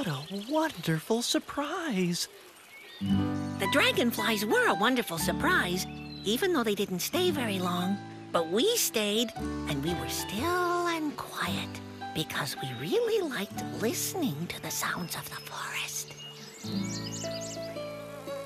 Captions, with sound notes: WHAT A WONDERFUL SURPRISE. THE DRAGONFLIES WERE A WONDERFUL SURPRISE, EVEN THOUGH THEY DIDN'T STAY VERY LONG. BUT WE STAYED AND WE WERE STILL AND QUIET. BECAUSE WE REALLY LIKED LISTENING TO THE SOUNDS OF THE FOREST! (BIRDS CHIRP)